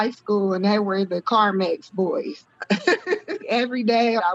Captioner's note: laughing